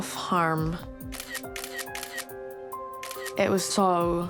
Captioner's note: camera shutter clicks